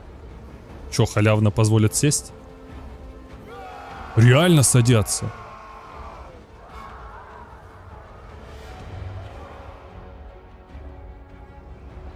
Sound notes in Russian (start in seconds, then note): 9.4 крик